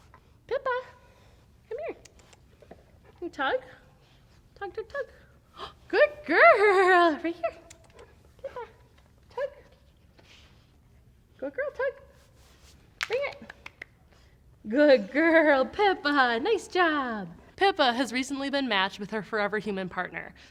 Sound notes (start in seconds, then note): 2.0 clicks tongue; 5.5 gasps; 7.6 clicks tongue